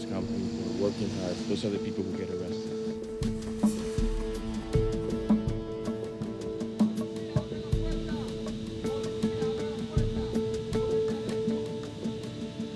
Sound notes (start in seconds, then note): 6.0 man yelling in Spanish